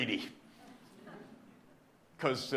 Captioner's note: audience laughing